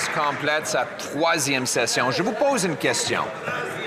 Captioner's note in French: voix de l'interprète